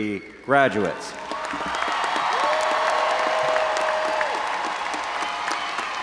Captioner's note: audience cheering and applauding